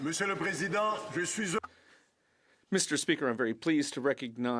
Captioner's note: some Applause